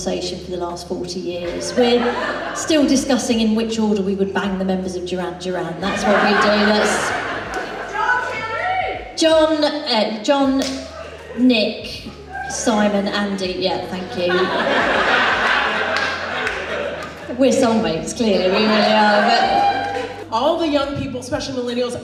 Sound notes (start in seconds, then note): 14.2 audience Laughs